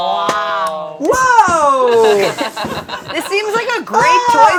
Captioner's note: group laughing